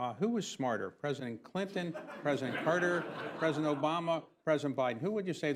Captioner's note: laughter